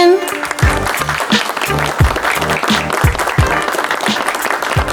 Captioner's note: applause